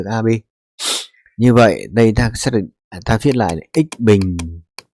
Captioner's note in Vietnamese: khịt mũi